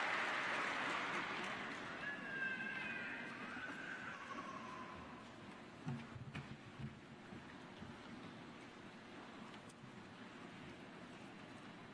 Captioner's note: applause